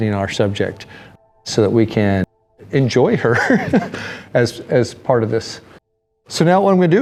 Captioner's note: laughs